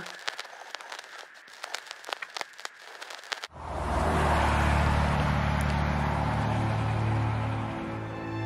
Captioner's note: applause